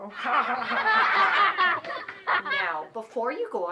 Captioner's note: laughter